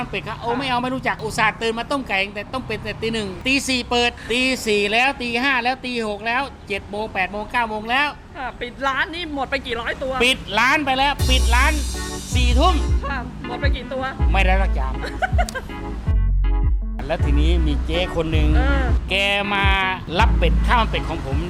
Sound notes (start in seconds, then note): 14.9 laughs